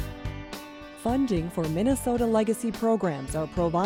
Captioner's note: voiceover